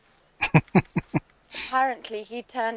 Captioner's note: chuckling